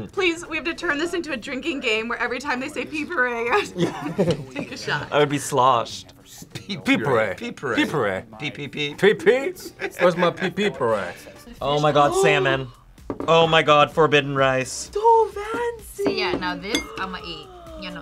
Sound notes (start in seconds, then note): 3.2 laughs; 12.5 gasps